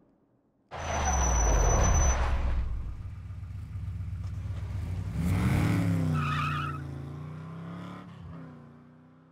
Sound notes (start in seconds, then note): 0.7 tires screeching